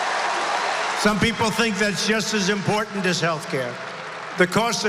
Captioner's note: applause